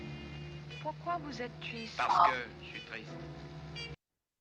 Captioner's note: speaking french